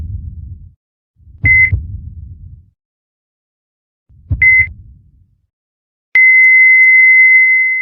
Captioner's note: EKG beeps, flatlines